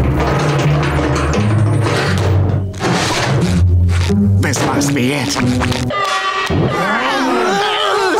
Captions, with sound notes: This must be it. [alarm sounding] [screaming]